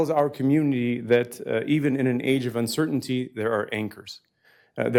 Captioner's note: none